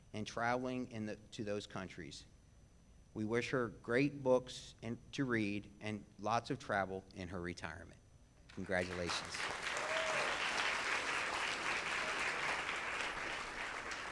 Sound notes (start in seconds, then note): 8.5 audience claps